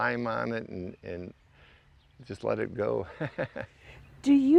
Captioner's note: laughs